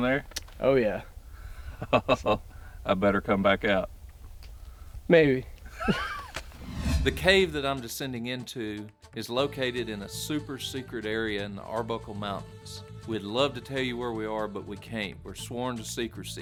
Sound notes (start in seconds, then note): 5.7 laughs